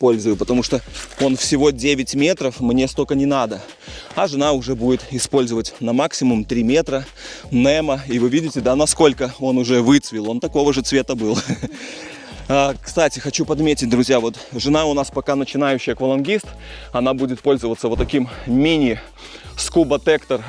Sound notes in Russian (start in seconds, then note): 11.2 смех